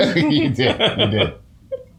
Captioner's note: laughter